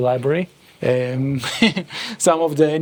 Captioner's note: laughs